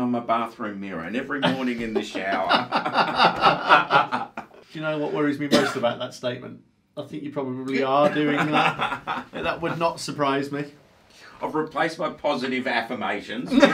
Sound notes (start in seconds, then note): 1.4 laughing